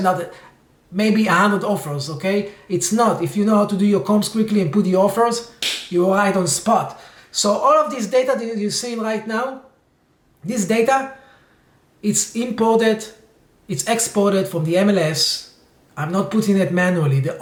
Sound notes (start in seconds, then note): 5.6 claps hands